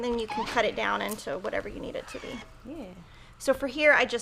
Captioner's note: iron squeaks